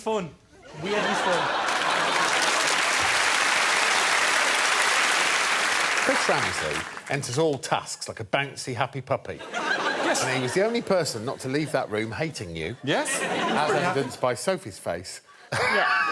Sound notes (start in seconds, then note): 1.3 applause